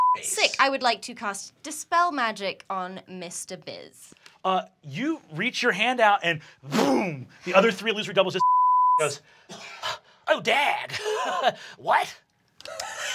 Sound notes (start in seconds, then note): 0.0 beep; 8.4 beep